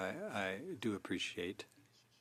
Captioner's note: speaking French